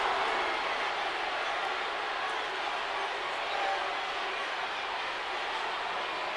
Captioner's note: crowd chattering continues